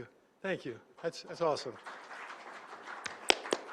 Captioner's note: applause